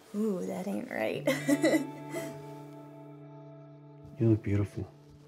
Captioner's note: Keely chuckles